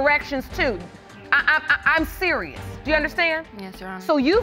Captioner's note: stammers